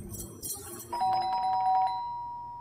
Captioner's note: Door bell rings